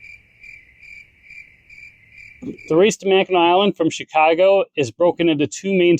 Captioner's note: crickets chirping